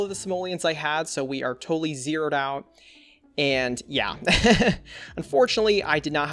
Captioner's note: laughs